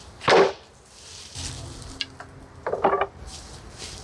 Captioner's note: boards thudding